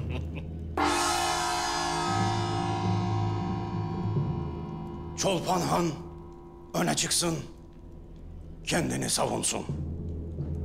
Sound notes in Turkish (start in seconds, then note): 0.0 Gülme sesleri; 0.8 Gong sesi